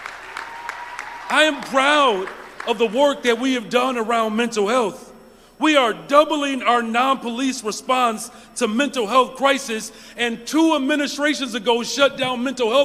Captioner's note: applause